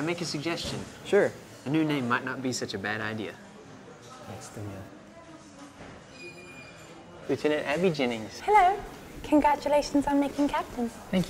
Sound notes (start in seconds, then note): 4.5 mutters